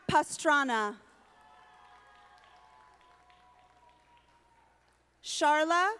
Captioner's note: audience applauding